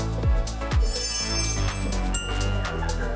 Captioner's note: sound effects for showing off